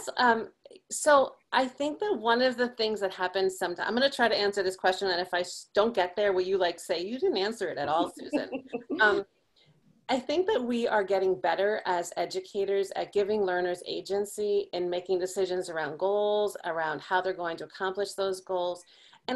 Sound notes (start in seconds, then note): 7.9 chuckles